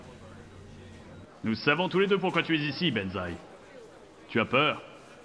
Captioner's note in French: Son de télévision